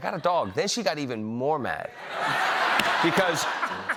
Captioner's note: laughter